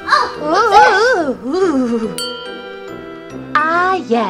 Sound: whimpering

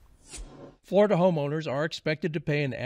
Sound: screen whooshing

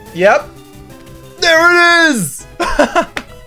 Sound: laughs

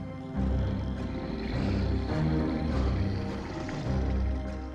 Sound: Gabriel growling

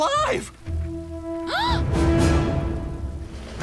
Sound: gasping

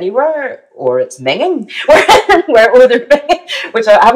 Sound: laughs

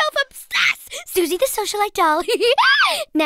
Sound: giggling

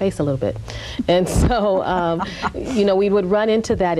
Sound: laughs

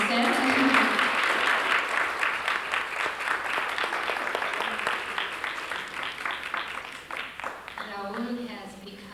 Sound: applause

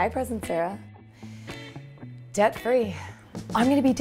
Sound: breathes in & smiles

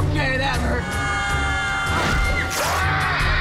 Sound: screaming

